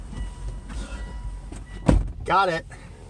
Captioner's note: car alarm dings; car door shuts